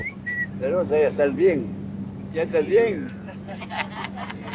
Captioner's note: speaking foreign language